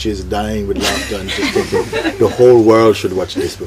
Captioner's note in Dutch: gelach